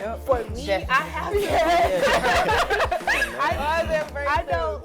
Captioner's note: all laughing